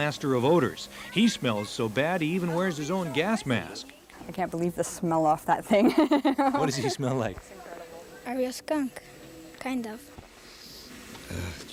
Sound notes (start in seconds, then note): 5.7 laughing